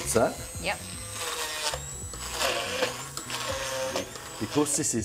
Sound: blender whirring

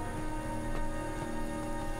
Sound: footsteps

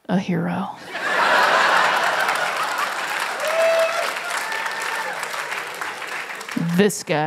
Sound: laughter; applause

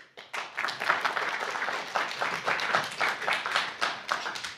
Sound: applause

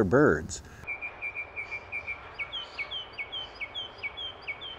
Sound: birds chirping

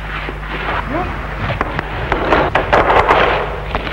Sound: muffled struggle

